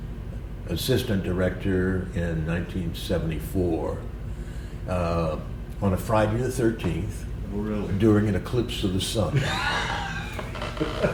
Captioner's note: laughter